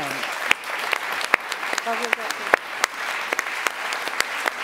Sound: applause

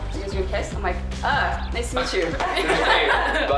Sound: group laughter

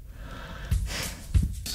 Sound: sighing

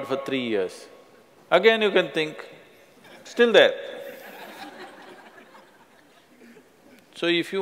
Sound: laughter

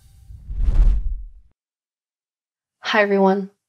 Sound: air whooshing

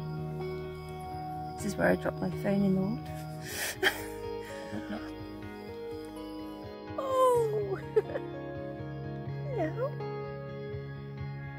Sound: laughing

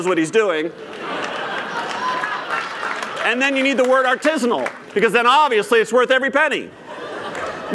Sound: laughter

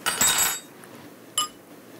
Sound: silverware falling

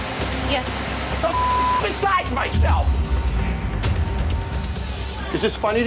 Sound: beeping

